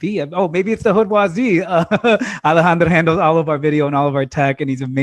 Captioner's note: laughter